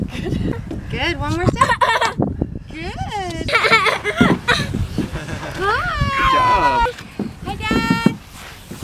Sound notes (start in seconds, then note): 1.0 laughing; 3.5 more laughing